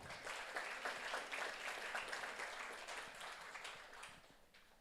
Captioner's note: audience applauds